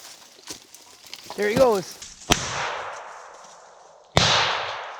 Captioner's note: gun bangs